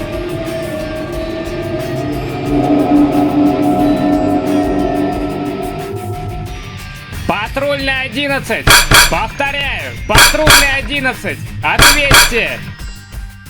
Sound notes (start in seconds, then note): 0.0 box engines whine; 8.6 metal punching